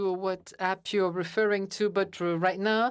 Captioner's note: speaking in French